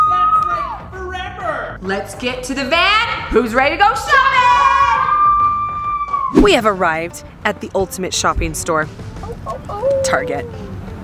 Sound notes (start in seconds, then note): 4.3 all cheering